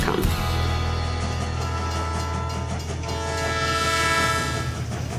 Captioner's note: train whistle blowing